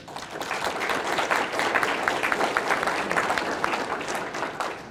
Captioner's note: audience applauding